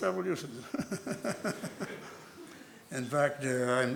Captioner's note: laughter